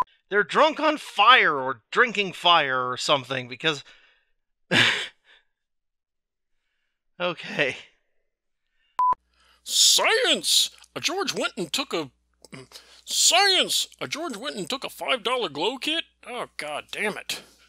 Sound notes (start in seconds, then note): 4.7 exhaled laugh